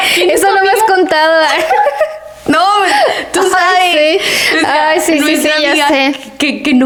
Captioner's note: laughs